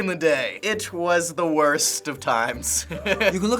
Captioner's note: laughs